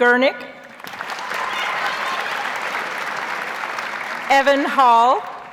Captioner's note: audience applauds